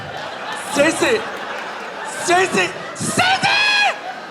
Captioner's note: audience laughing